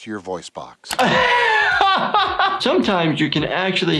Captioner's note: laughs